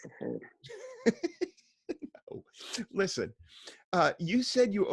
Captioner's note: laughs